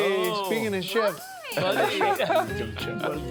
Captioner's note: all laughing